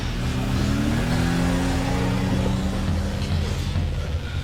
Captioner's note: car engine rumbling